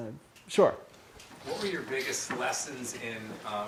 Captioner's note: voiceover